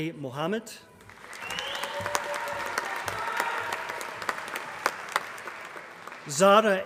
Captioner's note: applause